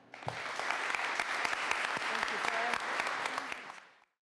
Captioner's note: applause